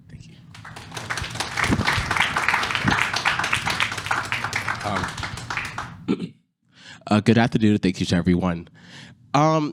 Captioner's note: applause